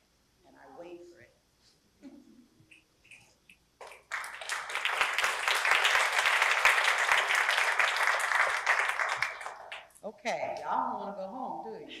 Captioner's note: applause